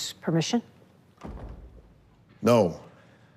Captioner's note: door clicks shut